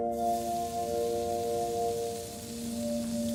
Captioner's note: sizzling